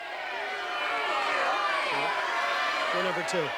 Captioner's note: chatter